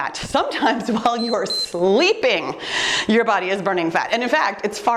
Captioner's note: timer beeps